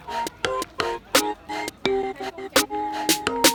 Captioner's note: clock